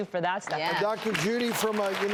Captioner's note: applause